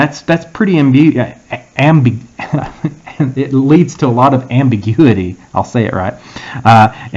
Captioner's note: laugh